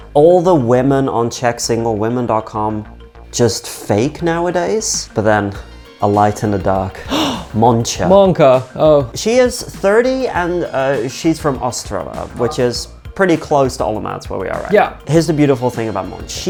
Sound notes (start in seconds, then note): 6.9 gasps